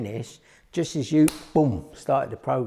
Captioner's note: hands clap